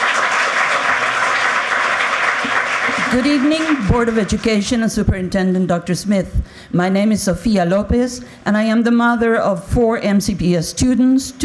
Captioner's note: applause